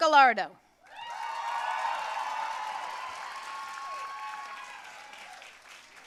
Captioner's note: audience cheering and applauding